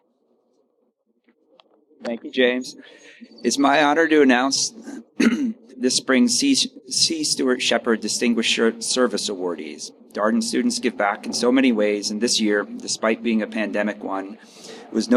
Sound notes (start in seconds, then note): 4.8 clears throat